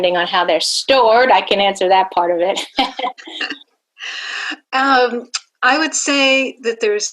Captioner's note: laughing